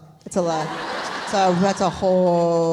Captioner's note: audience laughs